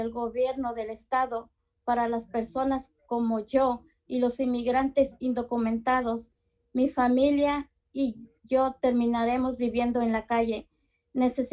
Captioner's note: speaking in spanish